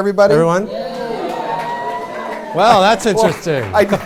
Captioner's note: cheering